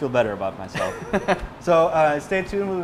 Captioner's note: laughs